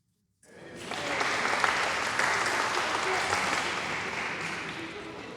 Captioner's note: applause